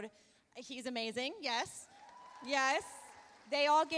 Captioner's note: audience cheering